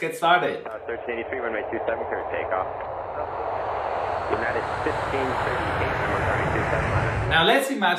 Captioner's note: ATC Sounds